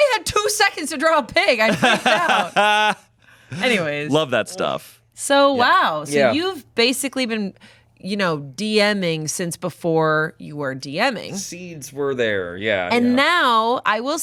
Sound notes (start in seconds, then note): 1.7 everyone laughs